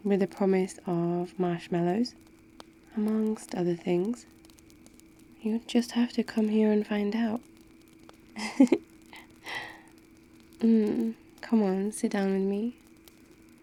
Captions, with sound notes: with the promise of marshmallows amongst other things you'll just have to come here and find out *laughs* mm come on... sit down with me